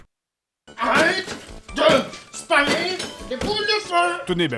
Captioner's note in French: Bruits de coup de batte sur la console